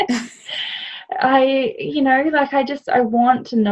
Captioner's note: chuckling